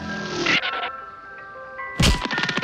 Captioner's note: tires screech; music tinkling